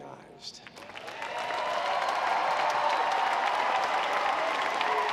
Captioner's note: audience applauds